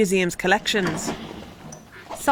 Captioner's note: door closes